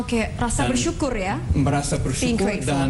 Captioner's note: non-english speech